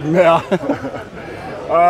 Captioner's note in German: lachen